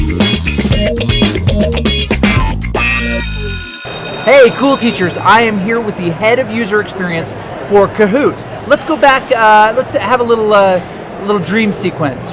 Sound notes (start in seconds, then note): 2.8 bell rings